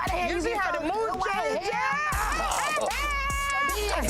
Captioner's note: laughs